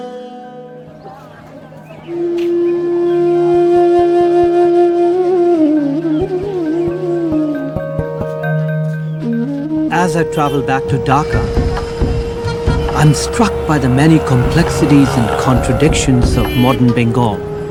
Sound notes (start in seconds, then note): 0.9 all chattering; 1.6 soft music